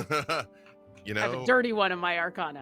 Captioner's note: chuckling